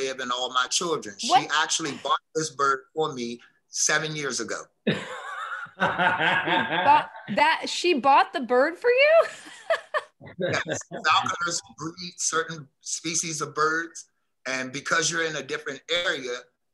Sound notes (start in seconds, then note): 4.9 Misha laughing; 10.4 she laughs